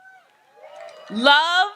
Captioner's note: audience cheers